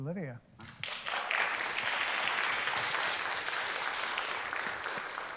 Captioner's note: applause